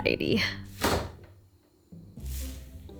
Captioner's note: slam